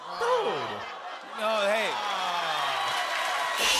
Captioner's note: crowd groans